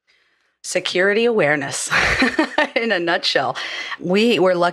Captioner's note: laugh